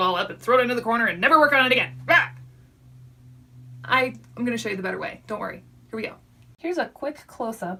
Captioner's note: yells